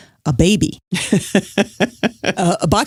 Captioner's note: laughs